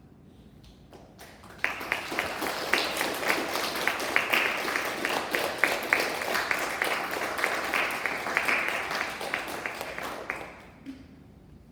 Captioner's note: applause